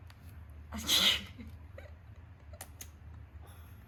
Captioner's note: laughs